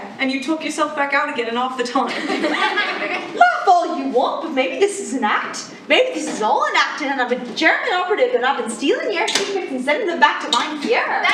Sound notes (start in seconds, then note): 2.1 laughing